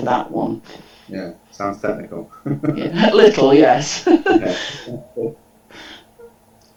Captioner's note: chuckles